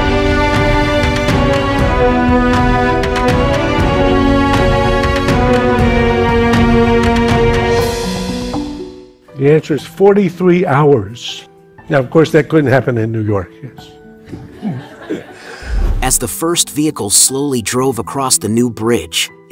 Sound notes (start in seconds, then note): 14.2 laughter